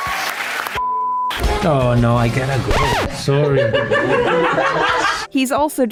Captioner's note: audience applause and swears but its bleeped; record scratch and people laughing in the background